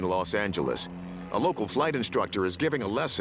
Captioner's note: none